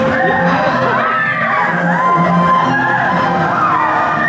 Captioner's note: yelling